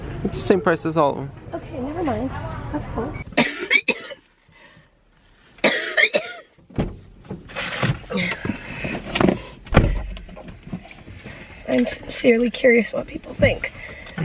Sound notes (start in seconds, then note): 3.3 coughing; 8.1 breathing heavily